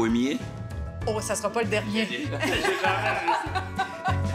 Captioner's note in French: rires